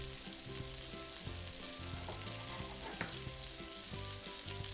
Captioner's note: meat sizzling